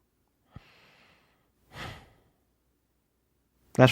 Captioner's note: sighs